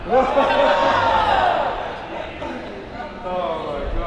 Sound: group laughing

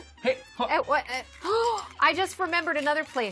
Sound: gasping

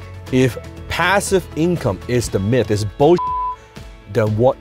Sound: beep

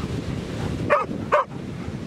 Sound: dog barking

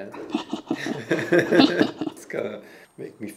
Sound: laughing; laughs

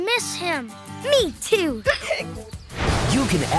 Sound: hiccuping

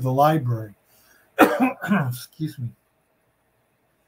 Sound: clears throat

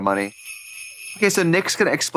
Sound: sleigh bells jingling

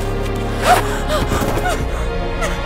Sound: shouts; sniveling

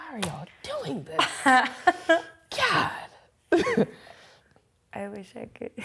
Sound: laughs

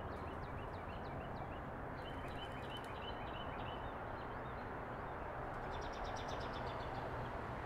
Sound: bird calls and traffic noises continue

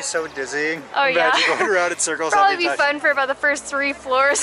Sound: laughs; laughter

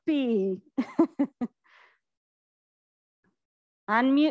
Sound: laughs

